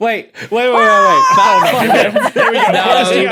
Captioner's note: shouts, then laughs